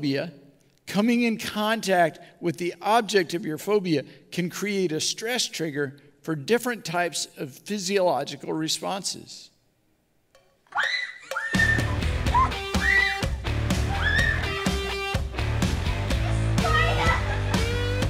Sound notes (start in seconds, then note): 10.4 repeated screaming; 17.9 laughing; 17.9 repeated screaming